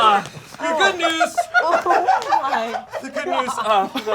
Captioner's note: audience laughing